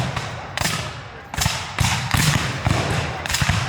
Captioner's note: guns fire